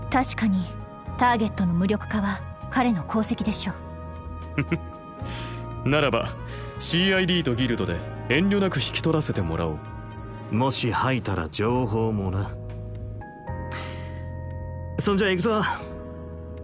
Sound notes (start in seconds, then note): 4.5 chuckle